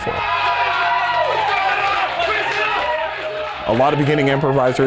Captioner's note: audience cheering